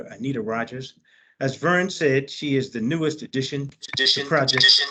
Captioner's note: feedback